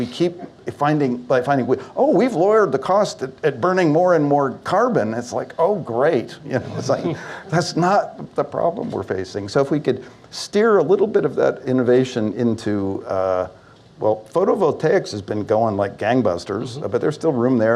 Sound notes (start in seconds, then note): 6.5 laughter